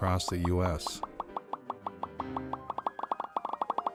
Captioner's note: popping